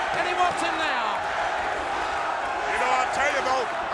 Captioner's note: crowd cheering